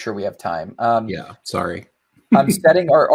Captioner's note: laughing amusingly